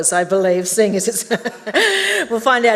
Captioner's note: laughs